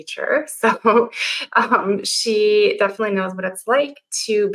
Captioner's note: chuckles